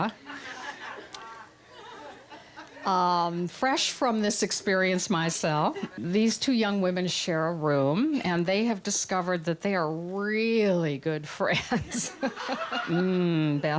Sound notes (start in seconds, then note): 0.2 laughter; 12.2 laughs